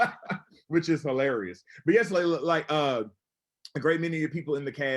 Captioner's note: laughs